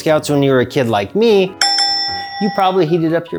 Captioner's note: bell dings